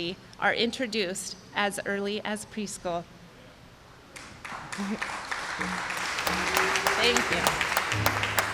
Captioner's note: applause